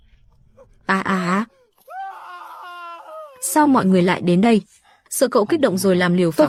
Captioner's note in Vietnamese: la hét